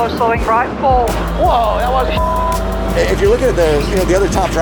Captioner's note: beep